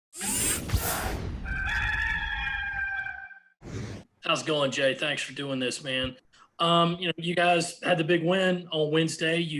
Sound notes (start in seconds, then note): 1.4 gamecock cry